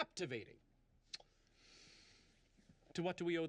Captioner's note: kisses